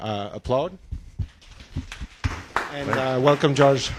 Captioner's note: applause